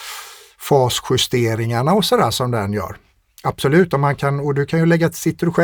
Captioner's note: scoffs